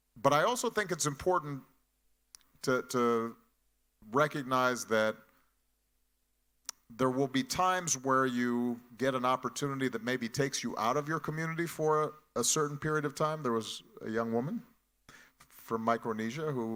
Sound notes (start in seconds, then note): none